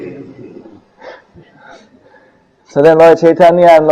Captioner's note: devotees laughs